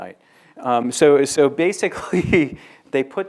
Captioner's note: laughs